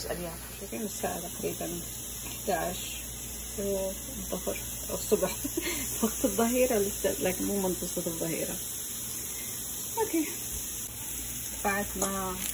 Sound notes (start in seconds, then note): 5.3 haha